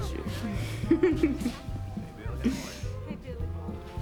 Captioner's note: laughs